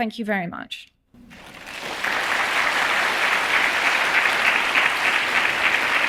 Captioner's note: audience applauding